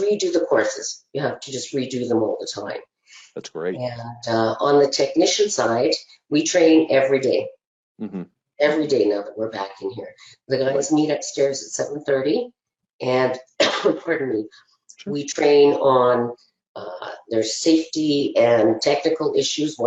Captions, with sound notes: We redo the courses. You have to just redo them all the time. - That's great. - And on the technician side, we train every day. Every day, now that we're back in here. They always meet upstairs at 7:30 and (coughing) pardon me. We train on, there's safety and technical issues,